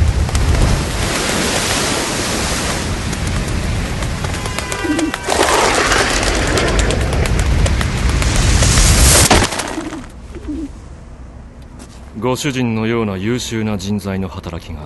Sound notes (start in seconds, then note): 0.1 waves crash; 4.3 passing vehicle horn; 10.3 dove coos